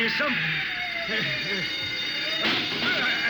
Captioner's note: gunshots